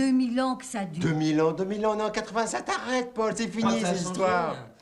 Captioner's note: speaking french